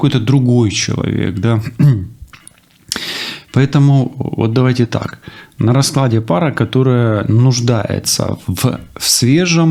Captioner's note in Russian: откашливается